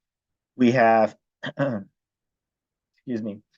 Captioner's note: clears throat